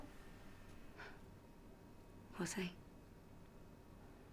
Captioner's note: scoffs